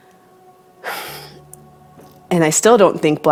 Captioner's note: sighs